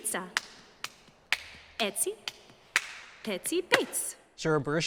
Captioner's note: chanting and clapping continue